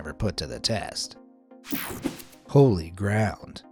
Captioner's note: graphics whooshing